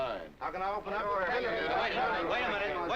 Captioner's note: crowd complaining